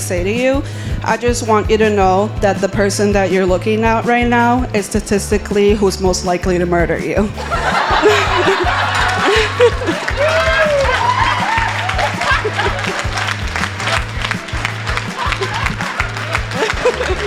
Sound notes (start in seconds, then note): 7.4 uproar of laughter; 9.8 clapping and cheers